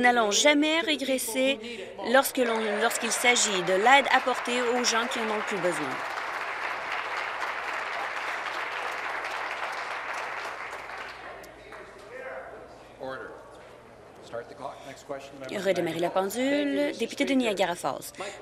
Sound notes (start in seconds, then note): 4.8 applause